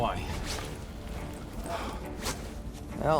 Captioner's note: sighs